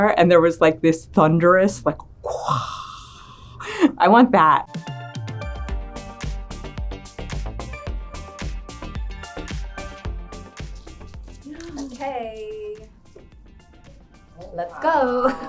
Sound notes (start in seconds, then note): 2.2 mimicking people gasping in awe; 4.7 upbeat electronic music